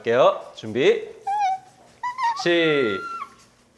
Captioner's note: whimpering